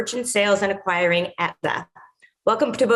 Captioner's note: audio distortion